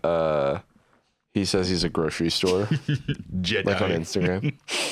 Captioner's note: laughs